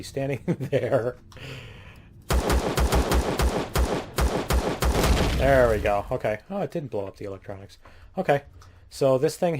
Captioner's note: laughs; explosion